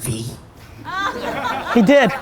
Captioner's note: audience laughter